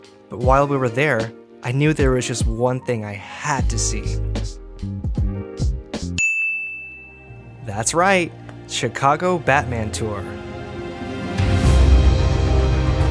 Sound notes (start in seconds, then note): 6.1 bell dings; 11.2 epic orchestral music